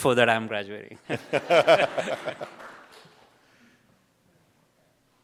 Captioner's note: audience laughs